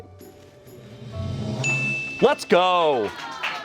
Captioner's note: bell dings